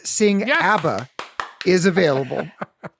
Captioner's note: claps